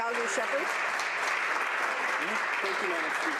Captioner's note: applause